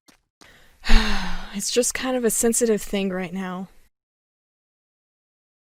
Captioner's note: sigh